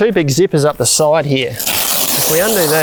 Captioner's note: velcro tearing